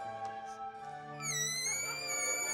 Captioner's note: squeaking